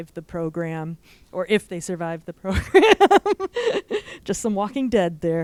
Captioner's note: laughs